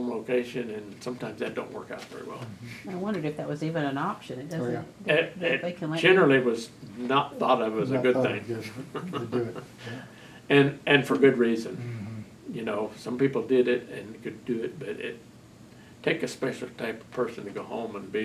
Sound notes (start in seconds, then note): 8.6 laughs